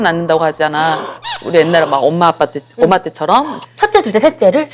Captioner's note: gasp